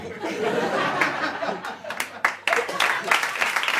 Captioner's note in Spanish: Risas y aplausos